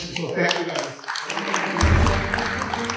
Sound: clapping

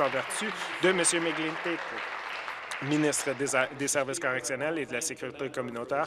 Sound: applause

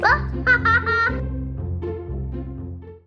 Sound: child laughs

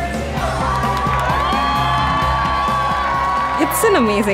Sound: crowd cheering

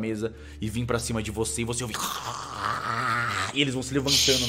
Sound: growl

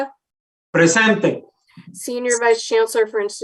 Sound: speaking in Spanish

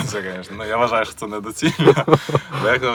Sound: laughter

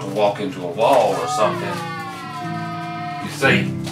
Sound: buzzing

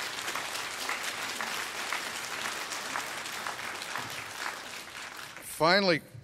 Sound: applause

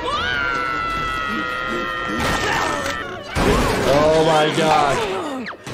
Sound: Mrs. Puff screaming

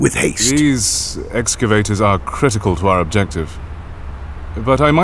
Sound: hesitant

